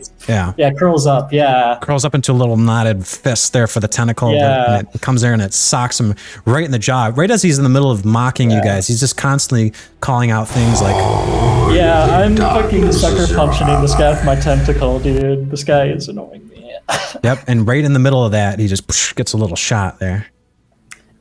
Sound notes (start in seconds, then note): 10.6 bane voice